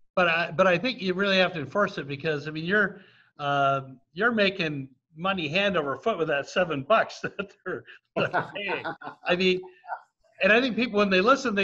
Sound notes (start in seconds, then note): 7.2 laughs